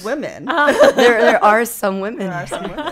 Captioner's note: laughing